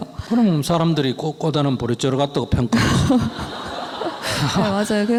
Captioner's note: audience Laughter